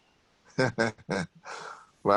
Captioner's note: laughs